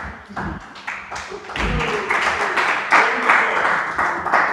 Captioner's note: audience clapping